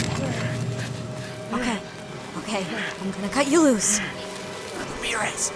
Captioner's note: none